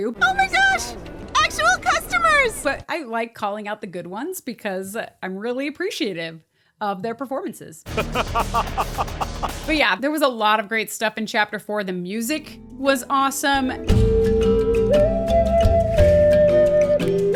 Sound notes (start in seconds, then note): 7.9 laughs